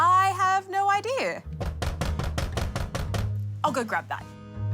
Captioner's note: banging on door